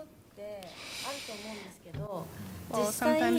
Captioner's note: speaking japanese